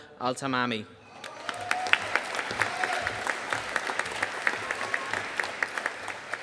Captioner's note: audience cheering and applauding